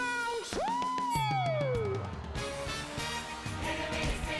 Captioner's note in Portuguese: bell dings